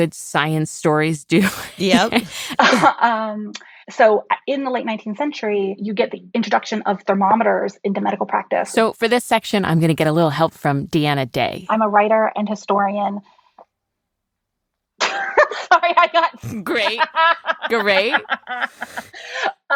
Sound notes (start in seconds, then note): 1.5 laughs; 16.1 laughs